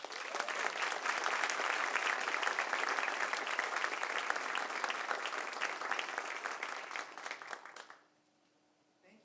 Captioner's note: applause